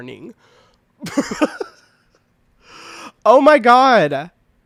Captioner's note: laughing